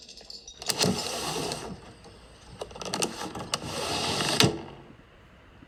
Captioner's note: window opening and closing